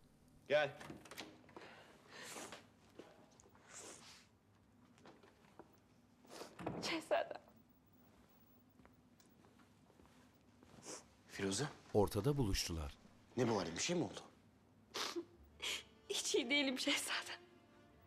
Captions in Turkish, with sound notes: Gel. (Kapı açılma sesi) (Burun çekme sesi) (Kapı kapanma sesi) Şehzadem. Firuze. Ne bu hâlin, bir şey mi oldu? (Burun çekme sesi) Hiç iyi değilim şehzadem.